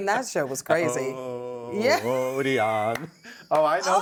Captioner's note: laughing